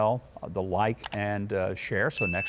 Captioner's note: mouse clicks; bell rings